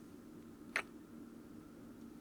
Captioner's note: kiss